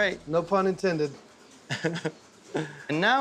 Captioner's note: chuckling